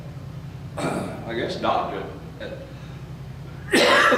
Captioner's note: coughs